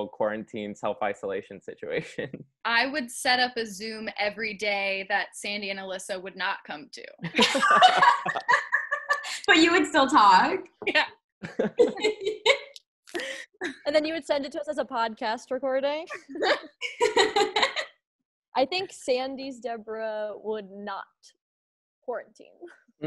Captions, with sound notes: quarantine, self-isolation situation. - I would set up a Zoom everyday that Sandy and Alyssa would not come to. (laughing) - But you would still talk? - Yeah. - And then you would send it to us a podcast recording. (laughing) - I think Sandy-Debra would not quarantine.